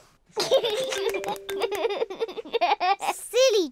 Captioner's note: laughs